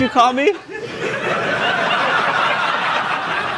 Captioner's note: laughter